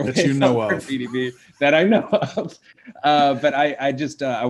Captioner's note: chuckling